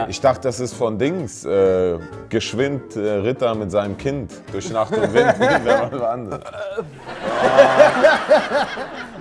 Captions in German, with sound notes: Ich dachte, das ist von Dings ... Geschwind Ritter mit seinem Kind. Durch Nacht und Wind ... Wer war das? (Würgen) (Gelächter)